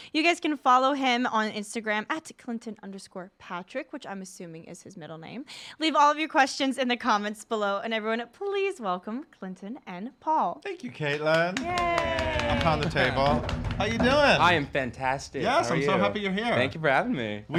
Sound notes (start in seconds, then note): 11.1 clapping; 13.2 thudding